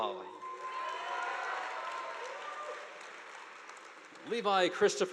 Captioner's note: audience applauding